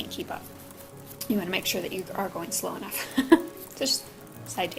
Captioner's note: laugh